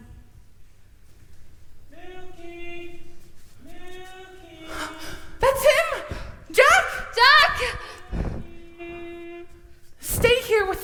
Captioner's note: distant voice